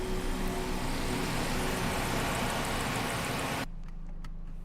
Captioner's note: car idles